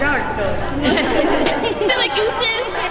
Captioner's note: laughter